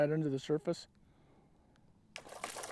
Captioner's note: splash